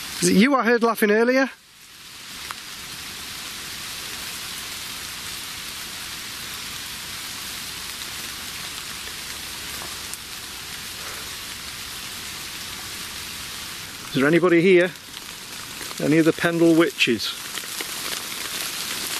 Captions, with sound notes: Is it you I heard laughing earlier? (rain pattering) - Is there anybody here? Any of the Pendle Witches?